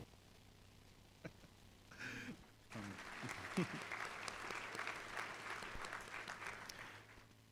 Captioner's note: applause